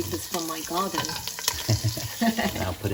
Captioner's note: laughing